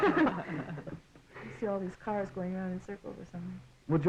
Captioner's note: laughing